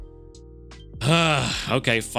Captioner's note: sighs